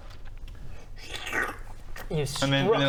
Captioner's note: slurp